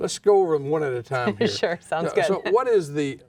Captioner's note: laughs